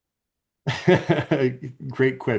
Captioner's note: laughing